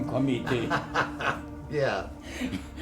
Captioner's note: laughing